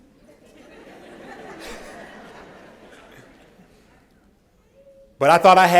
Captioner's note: laughter